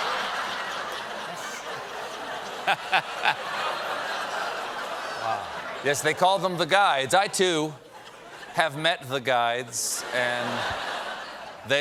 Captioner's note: cheers and applause